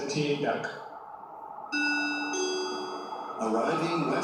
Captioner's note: ding ding